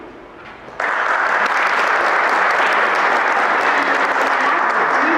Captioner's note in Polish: Aplauz